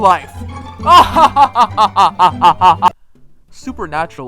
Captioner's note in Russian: злой смех